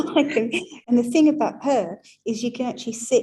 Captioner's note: laughing